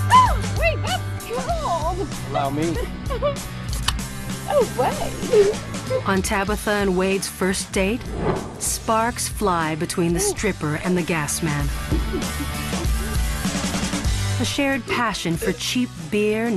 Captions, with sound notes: - Oh, we got you all. - Allow me. (laughing) - Oh, what? - On Tabitha and Wade's first date, sparks fly between the stripper and the gas man. (upbeat music) - A shared passion for cheap beer,